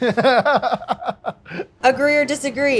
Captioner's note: laughing